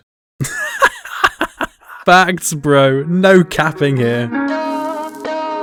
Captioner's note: laughing